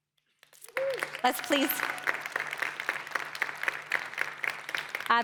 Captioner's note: applause